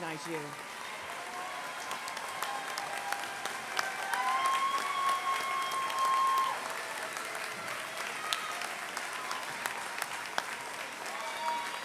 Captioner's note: applause